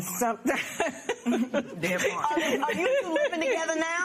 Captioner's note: laughs